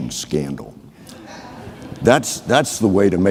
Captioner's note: audience laughing